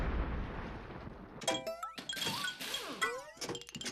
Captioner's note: metallic clanging